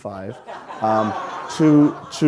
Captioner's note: audience laughing